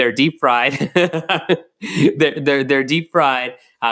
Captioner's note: laughs